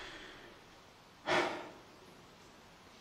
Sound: sighs

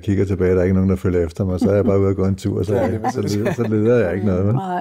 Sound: laughs

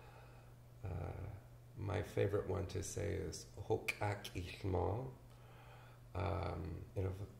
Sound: speaks indigenous language

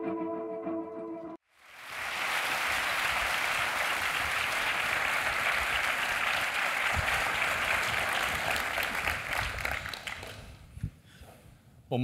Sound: applause

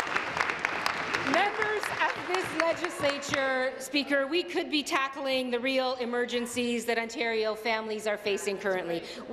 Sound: applause

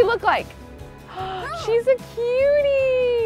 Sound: gasps

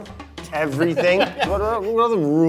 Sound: laughs

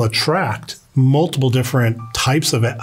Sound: bell chiming

